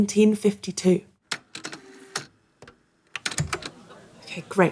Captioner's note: A click and whirr of a tape recorder